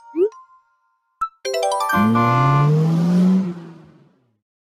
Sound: horn and acceleration

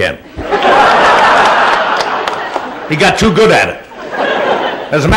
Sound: laughter

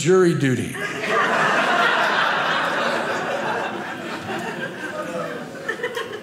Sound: audience laughing

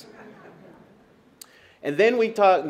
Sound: laughter

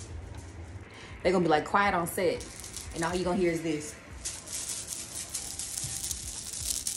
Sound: bead clicking sounds

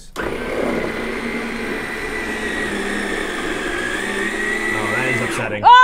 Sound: ice cream maker whirring

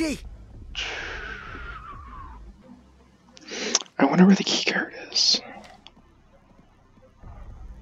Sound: deep breath

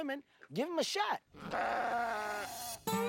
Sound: bleats

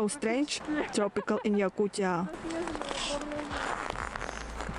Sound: laugh

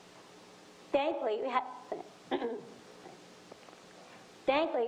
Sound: clears throat

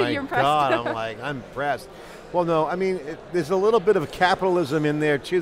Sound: laughter

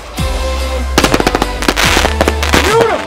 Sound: festive music; fireworks exploding

